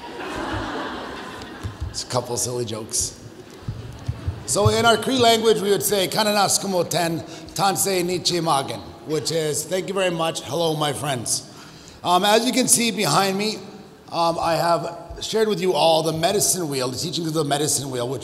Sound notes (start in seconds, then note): 0.0 audience laughs; 6.2 speaking in foreign language